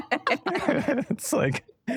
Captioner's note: laughter